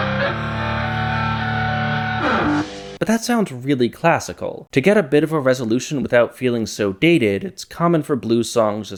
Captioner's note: bang